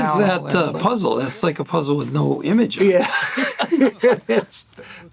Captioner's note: laughs